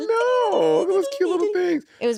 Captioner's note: exclaiming